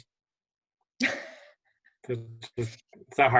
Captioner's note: laughter